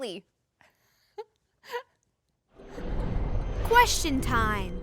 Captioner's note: chuckling